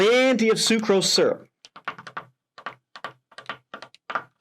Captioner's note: pen tapping